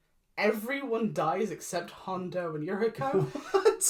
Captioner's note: confused laughing